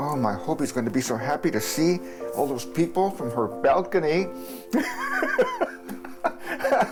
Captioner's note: laughs